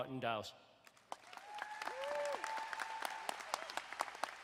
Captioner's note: crowd applauding